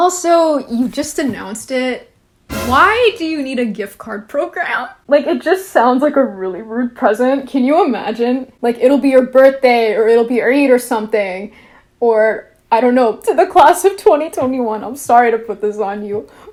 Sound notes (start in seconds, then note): none